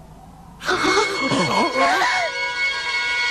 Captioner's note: sighing